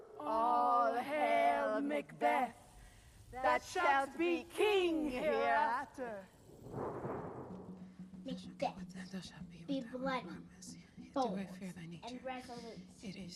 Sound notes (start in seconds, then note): 6.4 thunderclap